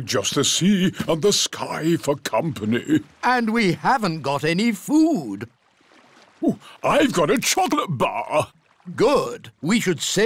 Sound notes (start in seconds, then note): none